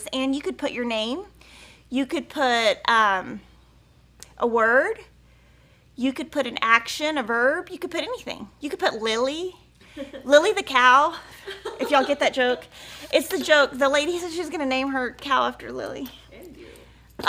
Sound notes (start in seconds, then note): 9.8 laughing